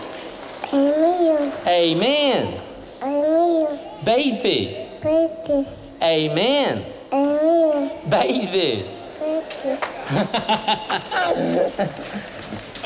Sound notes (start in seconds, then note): 8.8 giggles; 10.0 laughter